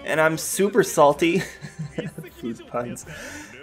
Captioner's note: laughter